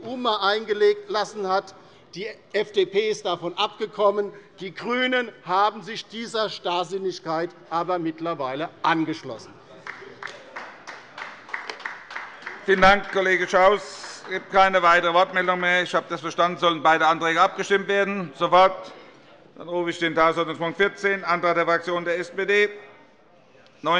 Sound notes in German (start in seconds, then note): 9.8 Beifall bei der LINKEN